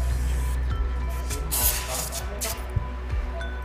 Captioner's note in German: Sauggeräusche, Stimmengewirr